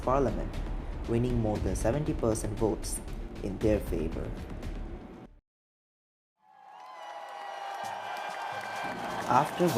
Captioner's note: happy crowd sound during dictation